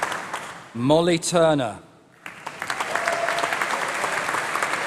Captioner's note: applause